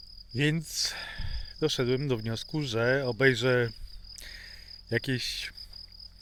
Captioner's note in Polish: westchnienie